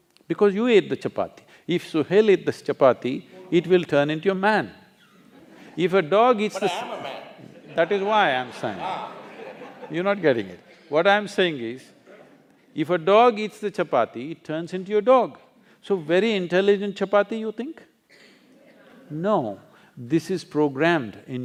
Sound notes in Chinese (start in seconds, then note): 7.4 笑聲